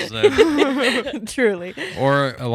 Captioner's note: laughing